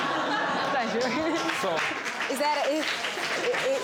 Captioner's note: chuckles